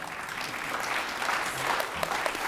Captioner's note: applause